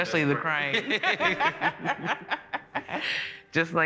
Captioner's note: both laughing